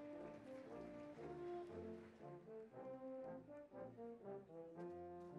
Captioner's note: applause; orchestral music